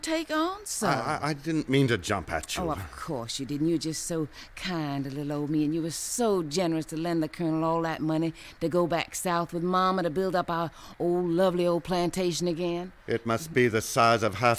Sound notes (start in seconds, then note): 2.6 stammers